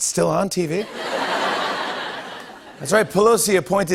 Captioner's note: laughter